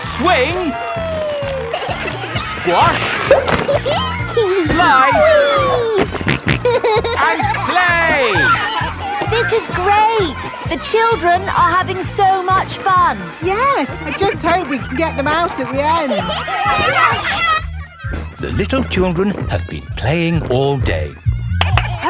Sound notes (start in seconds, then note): 3.5 giggles; 5.5 snorting